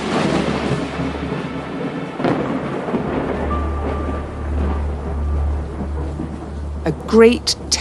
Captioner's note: thunder